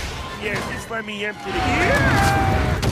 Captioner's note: yells; boom